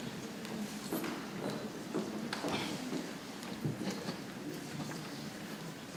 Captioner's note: people chattering softly